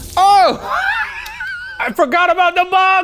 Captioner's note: laughs